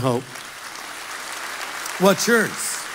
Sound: congregation laughs

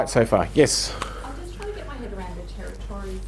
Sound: woman's Voice

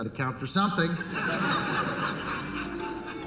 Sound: laughter

